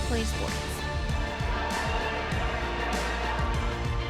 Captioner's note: crowd cheering; low tense music continues